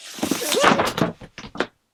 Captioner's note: thud